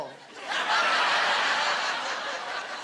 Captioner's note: laughter